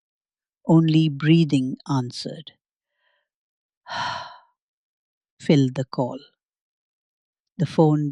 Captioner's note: breathes heavily